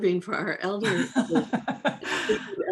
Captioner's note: laughs